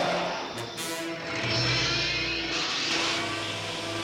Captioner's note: engine revs; whirring